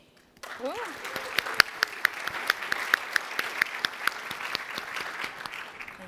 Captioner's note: applause